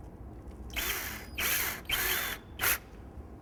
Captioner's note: drill whirs